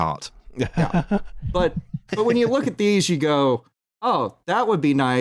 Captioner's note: laughs